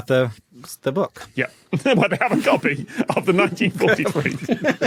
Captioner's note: laughs; giggle